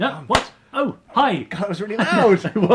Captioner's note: box snaps shut